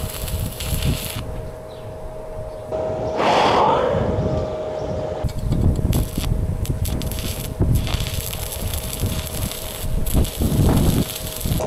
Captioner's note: wind blowing